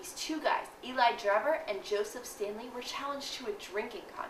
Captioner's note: none